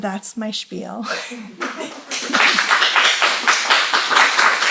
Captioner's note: applause